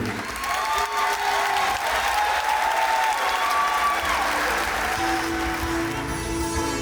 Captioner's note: audience applauding and cheering